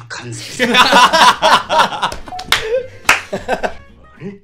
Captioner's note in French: Rires